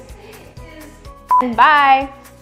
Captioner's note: beep